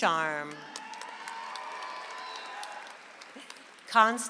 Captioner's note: audience applauds